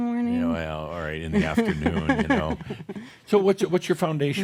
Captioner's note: she chuckles; she continues chuckling